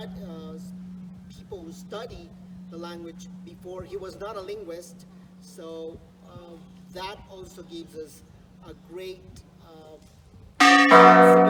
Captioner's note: church bell rings